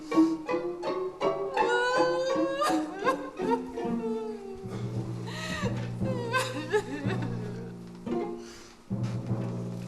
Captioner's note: Margaret weeps